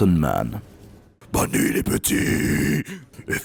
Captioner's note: voice from beyond the grave